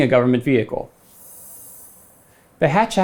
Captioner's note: graphics whooshing